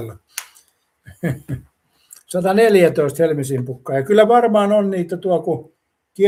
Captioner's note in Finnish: naurua